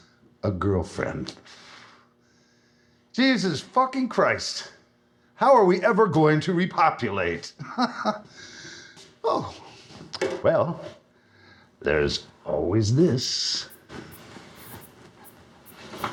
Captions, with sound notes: A girlfriend? Jesus fucking Christ! How are we ever going to repopulate? [laughing] Oh! Well... There's always this! [air bursts]